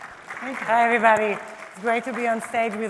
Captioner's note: applause